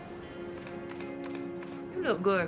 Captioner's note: shutter clicks